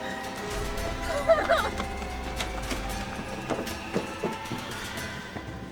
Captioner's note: dramatic music; whimpering